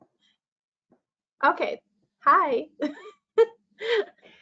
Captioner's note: laughs